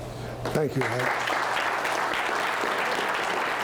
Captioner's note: applause